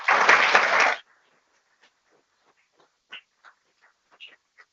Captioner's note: people clapping